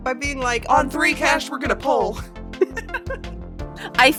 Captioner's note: chuckles